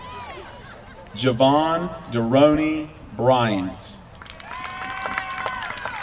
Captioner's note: applause